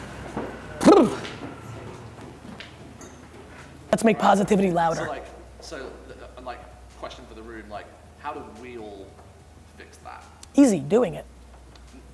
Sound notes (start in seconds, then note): 0.8 shivers